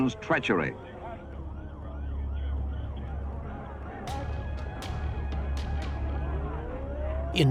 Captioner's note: sirens wailing; suspenseful music